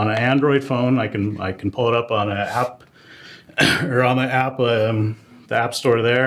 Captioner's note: cough